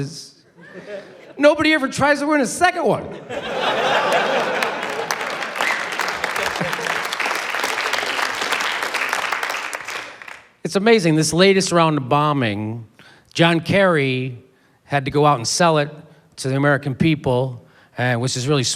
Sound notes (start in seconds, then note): 3.2 laughter, applause